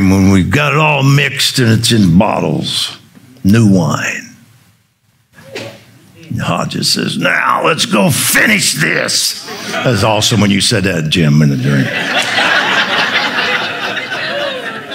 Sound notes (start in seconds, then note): 11.8 audience laughing